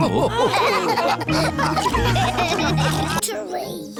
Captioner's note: all laughing